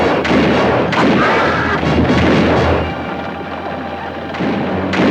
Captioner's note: guns fire; Apache screams